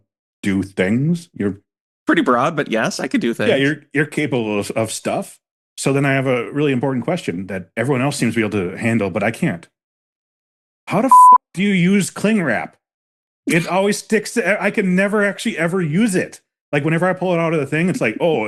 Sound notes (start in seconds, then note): 11.1 beep